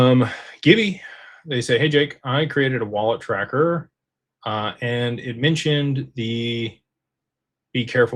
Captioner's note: sighs